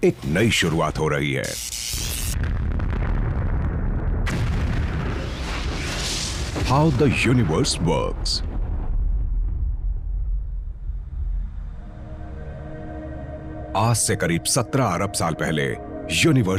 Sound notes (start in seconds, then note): 1.4 electricity buzzing; 4.5 explosion blasts